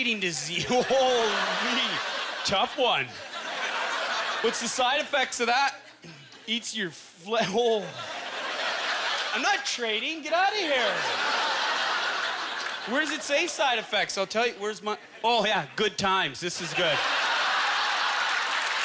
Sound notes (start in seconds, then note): 0.0 audience laughter; 10.6 audience laughter; 16.5 audience laughter; 17.4 applause